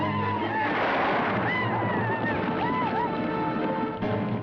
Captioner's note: gun firing